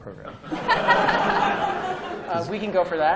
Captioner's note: laughter